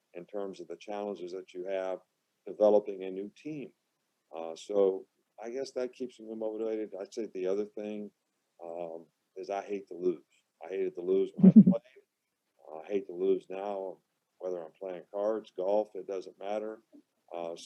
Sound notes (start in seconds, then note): 11.6 everyone laughing